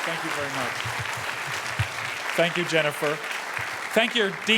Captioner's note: applause